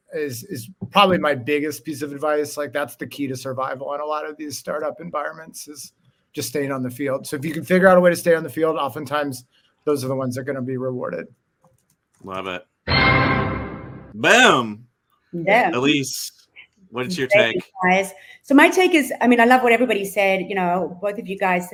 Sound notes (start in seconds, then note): 12.9 bell bangs